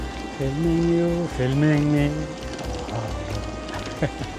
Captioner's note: laughter